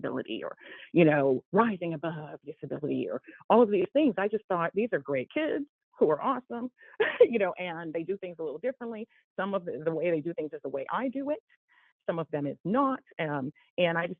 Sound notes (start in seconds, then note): 7.0 laughter